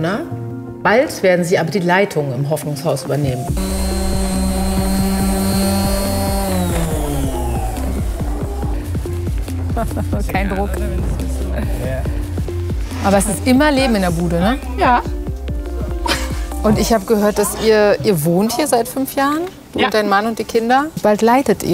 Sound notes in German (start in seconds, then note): 7.4 Entspannte Musik; 9.6 Lachen